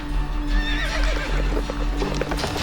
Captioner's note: horse neighs; horses trotting away